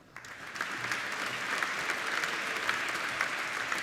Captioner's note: applauding